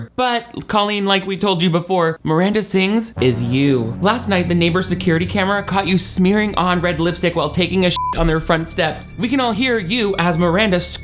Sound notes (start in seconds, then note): 7.9 beep